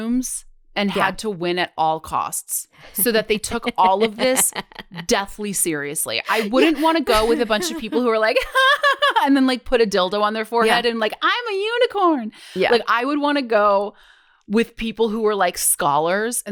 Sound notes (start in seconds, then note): 2.9 laughs